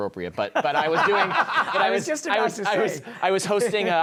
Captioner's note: laughter